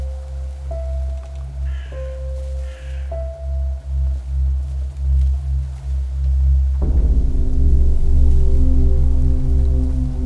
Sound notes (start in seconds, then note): 2.1 bird crows; 7.4 intense music